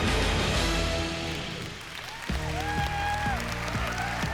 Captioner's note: applause and cheering